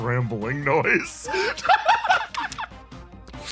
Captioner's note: laugh